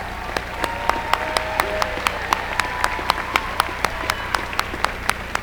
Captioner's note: applause